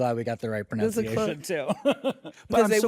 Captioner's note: laughs